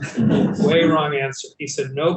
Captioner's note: panelists laughing